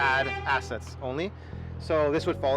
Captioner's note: car honks